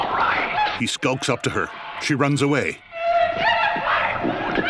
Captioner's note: Diane shouts & sobs